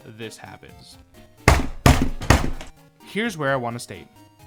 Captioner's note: desk slams